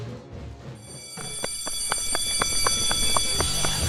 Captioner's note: sound of school bell ringing